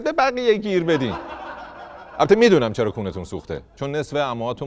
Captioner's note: laughter